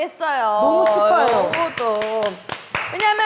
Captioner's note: clapping together!